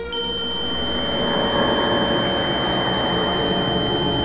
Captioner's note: high-pitched, distorted sound